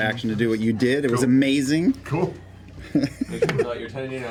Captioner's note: laughs